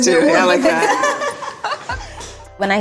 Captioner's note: women laughing